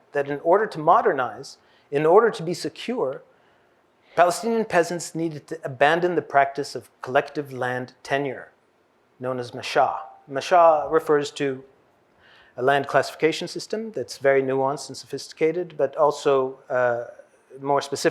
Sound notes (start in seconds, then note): 9.5 hebrew